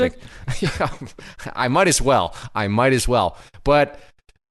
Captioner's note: laughs